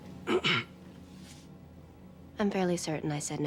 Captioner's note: clears throat